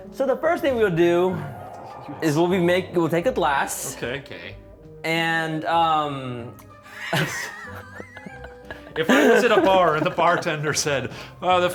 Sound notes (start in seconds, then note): 7.0 wheezing